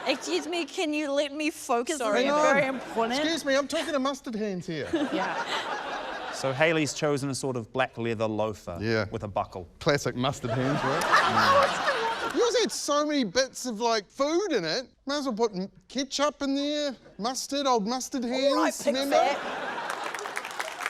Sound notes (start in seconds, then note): 10.4 laughter; 19.6 applause